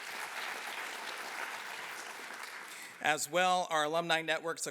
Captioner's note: applause